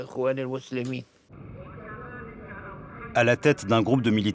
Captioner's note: man speaking into a microphone